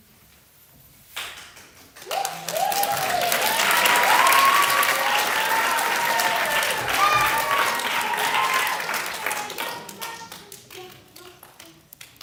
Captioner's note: applause